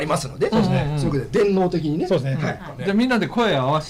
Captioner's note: laughs